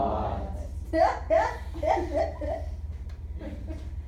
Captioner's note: student laughing out loud